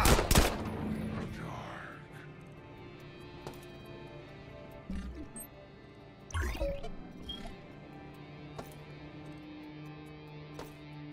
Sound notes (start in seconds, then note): 0.0 gun fires; 3.7 beeps